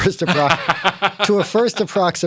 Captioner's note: laughter